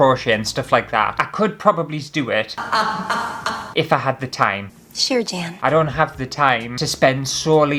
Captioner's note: laughter